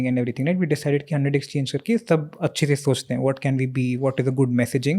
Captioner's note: speaks in Hindi